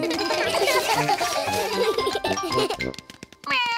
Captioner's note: all giggle